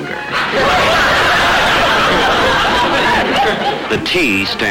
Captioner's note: audience laughter